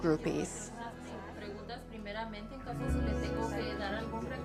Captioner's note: speaking Spanish